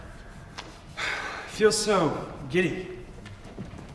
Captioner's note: sighs